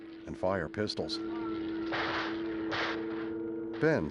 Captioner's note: gunshots